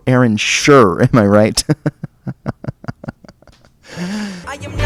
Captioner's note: sighs; chuckles